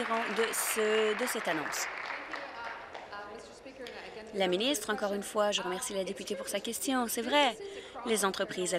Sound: applause

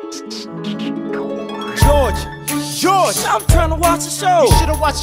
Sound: shh!

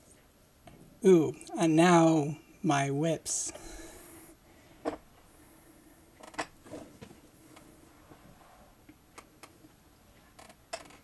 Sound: chair creaking

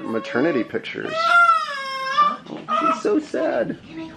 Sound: crying

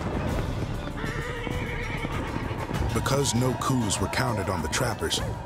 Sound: horses neighing, hoofbeats rapidly approaching

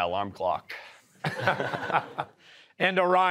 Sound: laughter

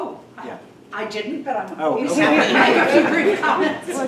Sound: laughing

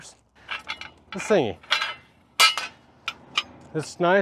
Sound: metal clangs

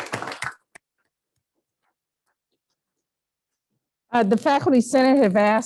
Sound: applause

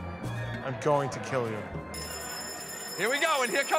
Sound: bell ringing

